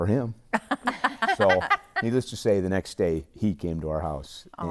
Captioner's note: laughing